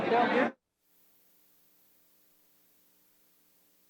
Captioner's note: participants chatter